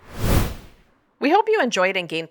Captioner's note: whoosh Sound